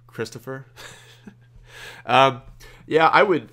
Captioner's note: laughs